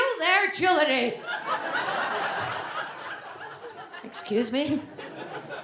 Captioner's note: audience laughs